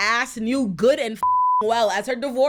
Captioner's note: beep